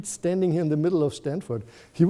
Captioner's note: none